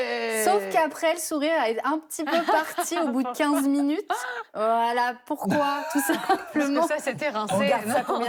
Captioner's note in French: rires